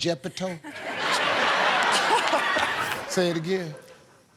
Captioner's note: laughter